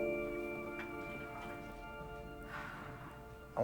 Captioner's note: sighs